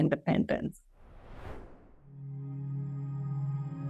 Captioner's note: air whooshing; gentle music